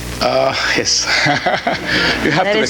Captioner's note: laughs